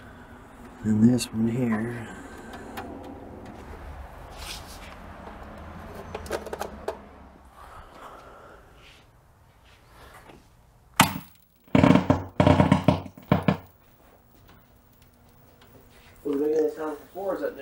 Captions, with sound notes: Then this one here. (arcade crackling)